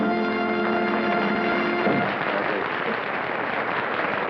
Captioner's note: applause